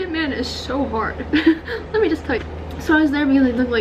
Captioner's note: laughs